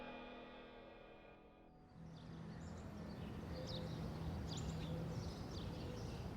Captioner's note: birds chirping